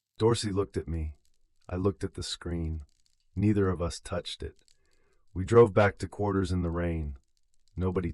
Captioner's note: exhale